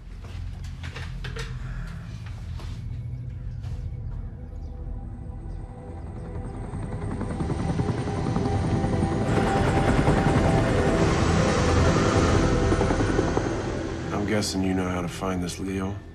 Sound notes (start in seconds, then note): 5.8 helicopter blades whirring